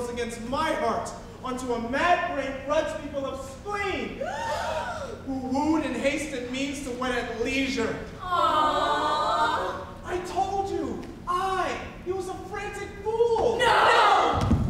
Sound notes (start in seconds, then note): 4.3 group gasps